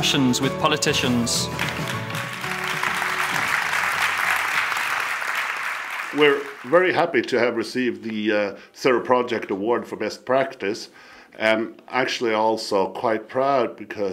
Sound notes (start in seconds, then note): 0.9 applause